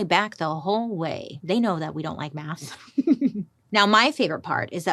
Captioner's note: chuckles